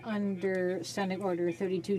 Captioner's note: speaking French